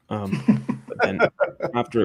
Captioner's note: both laughing